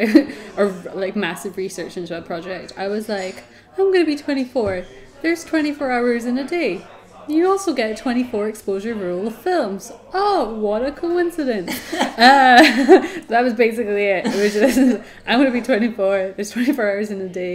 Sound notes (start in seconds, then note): 11.7 both laugh